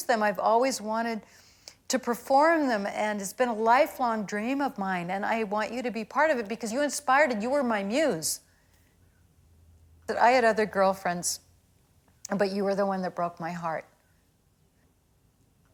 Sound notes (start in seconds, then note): none